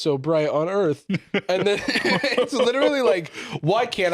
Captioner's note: laughs